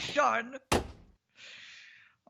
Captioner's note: door slams